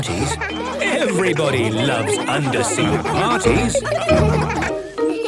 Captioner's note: laughter